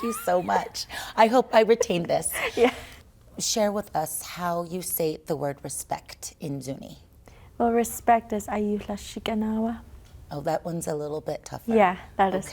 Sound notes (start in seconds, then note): 3.1 laughter